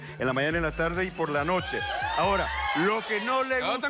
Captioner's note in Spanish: Exclamaciones